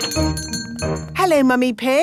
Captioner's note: doorbell chiming